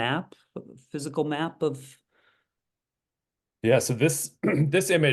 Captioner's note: cough